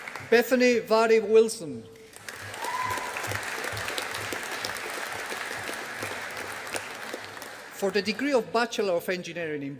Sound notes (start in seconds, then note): 2.0 audience applauding